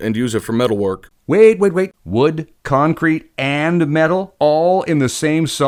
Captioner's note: voiceover